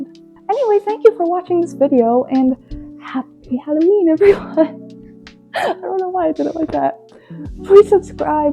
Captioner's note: laughs